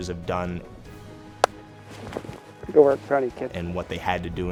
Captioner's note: hands clapping